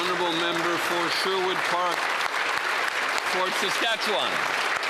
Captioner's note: speaking alternate language